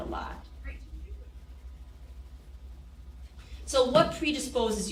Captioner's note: people chattering